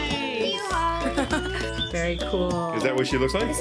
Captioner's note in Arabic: يضحك